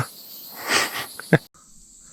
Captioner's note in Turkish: kahkaha